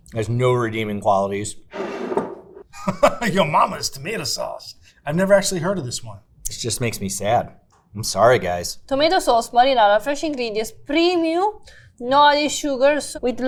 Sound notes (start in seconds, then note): 1.7 jar scraping; 2.7 laughs